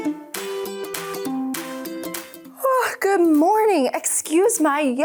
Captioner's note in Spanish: música orquestal brillante y juguetona; bosteza